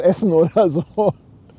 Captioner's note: laughs